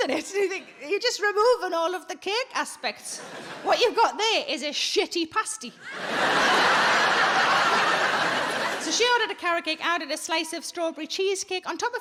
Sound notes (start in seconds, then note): 5.8 audience laughing